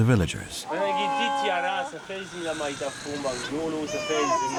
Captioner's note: Malagasy spoken audio